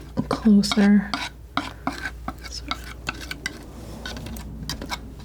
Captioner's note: scraping